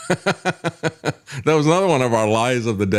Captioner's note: laughs